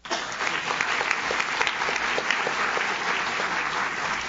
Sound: audience claps

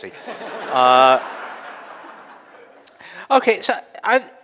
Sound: audience laughing

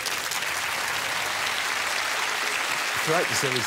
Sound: audience applause

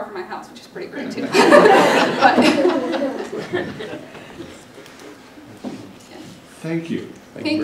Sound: laughter

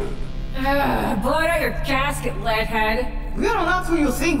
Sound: groans

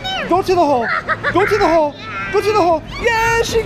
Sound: laughs

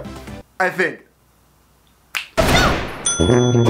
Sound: gun shot sfx

